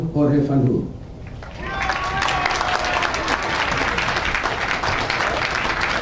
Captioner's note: audience cheering and applauding